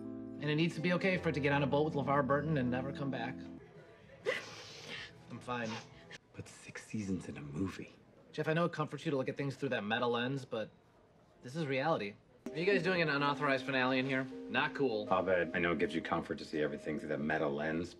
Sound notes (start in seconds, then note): 4.2 BRITTA sobbing